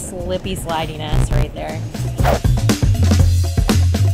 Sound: air whooshing; buzzer dings; upbeat music

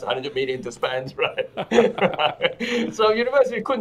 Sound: both laugh

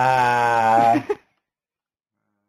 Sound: laughing

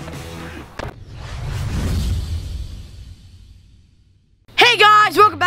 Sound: electronic whoosh

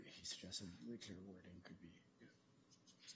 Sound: quietly

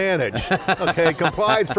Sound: group laughing

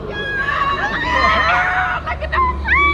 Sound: crowd cheering; laughs; screams

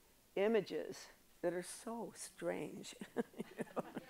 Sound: chuckles

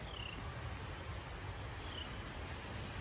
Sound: birds chirping

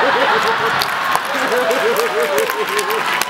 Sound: laughs

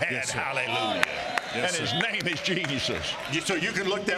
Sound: audience cheering

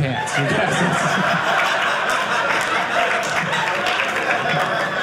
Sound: audience laughing

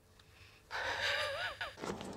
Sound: chuckles

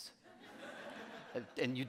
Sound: audience laughing

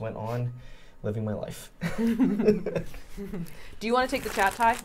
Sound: laughing

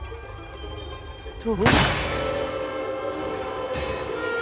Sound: gunshot

